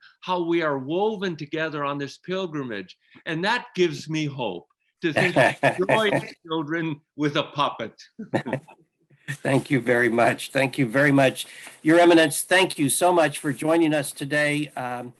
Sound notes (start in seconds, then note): 5.1 laughing; 8.2 laughing